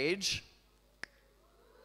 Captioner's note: snaps